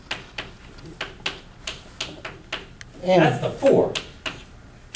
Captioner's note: chalk clicking on board